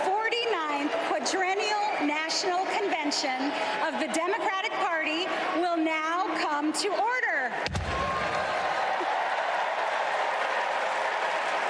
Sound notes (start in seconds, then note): 0.0 applause